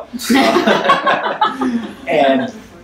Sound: audience laughs

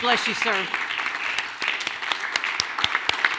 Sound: clapping

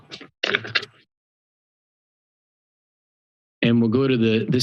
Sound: pause

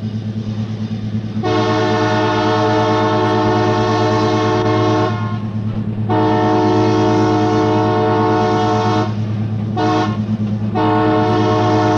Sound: train horn

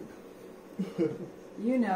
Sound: laughter

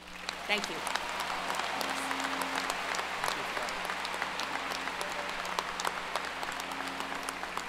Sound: applause

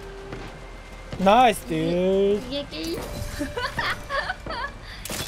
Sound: laughs

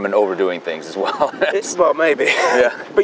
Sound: laughs

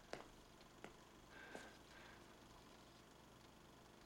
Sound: none

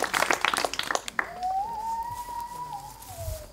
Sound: applause; loon Call

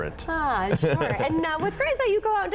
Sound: laughter

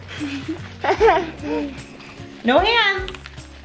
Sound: laughing

